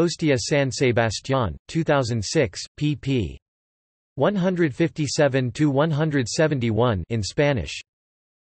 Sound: in Spanish

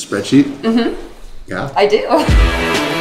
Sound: laughing; upbeat rock music

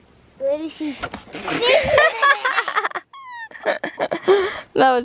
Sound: laughing

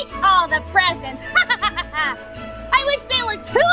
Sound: laughing

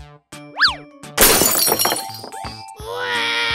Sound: crashes; cries

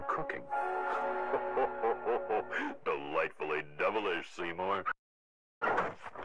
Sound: mischievous laugh

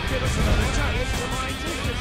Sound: rabble rabble

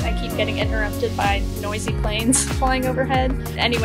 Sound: chuckling

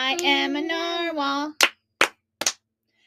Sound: clap, clap, clap

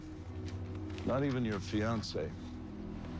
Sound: paper rustles

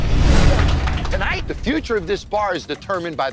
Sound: staff applauding

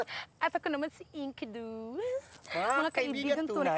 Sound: giggles

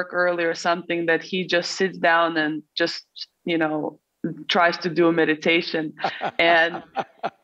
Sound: Sadhguru laughs

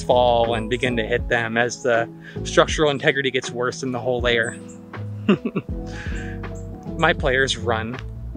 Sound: giggles

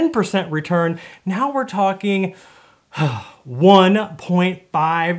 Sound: sighs

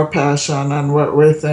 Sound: phone ringing in background

